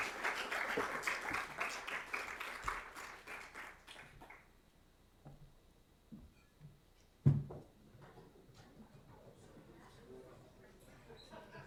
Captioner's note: applause